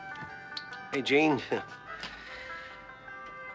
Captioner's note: chuckling